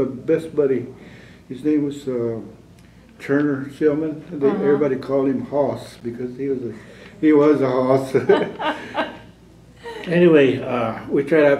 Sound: laughter

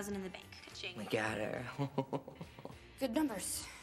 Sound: CHUCKLlNG

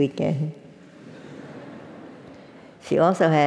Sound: laugh

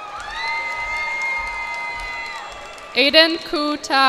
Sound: cheers and applause

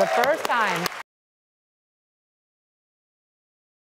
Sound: applauding

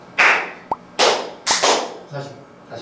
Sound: round 2 full of applause sounds

